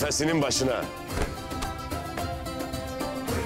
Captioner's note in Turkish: El vurma sesleri